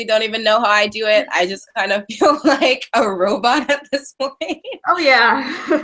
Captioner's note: laughing